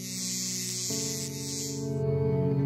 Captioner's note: buzzing